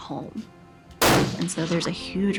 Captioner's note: gun banging